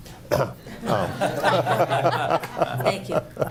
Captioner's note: group laughing